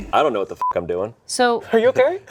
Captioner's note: beep